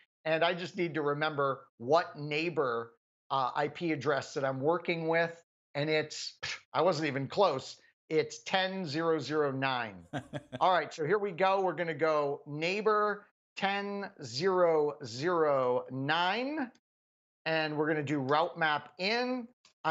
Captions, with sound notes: And I just need to remember what neighbor IP address that I'm working with, and I wasn't even close, it's 10.0.0.9. >> [LAUGH] >> All right, so here we go, we're gonna go neighbor 10.0.0.9. And we're gonna do route-map end.